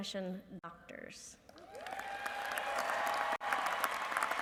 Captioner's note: applause